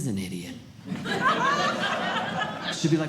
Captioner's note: audience Laughing